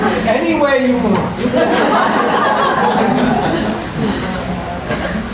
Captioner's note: people laughing